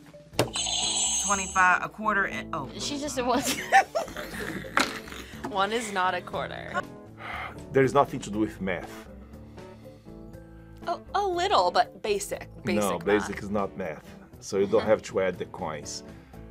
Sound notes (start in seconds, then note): 0.1 buzzer rings; 3.4 laughs